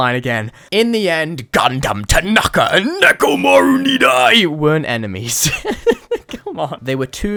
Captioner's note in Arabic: يضحك